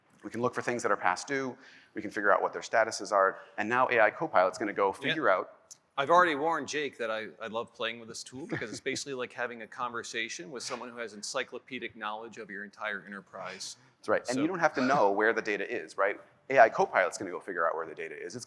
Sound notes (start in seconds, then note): 8.3 laughs; 14.3 chuckles